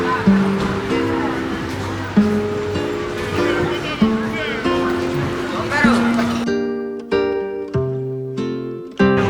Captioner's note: haha